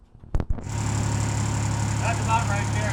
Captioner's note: machine buzzing